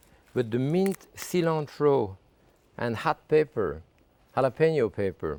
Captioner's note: none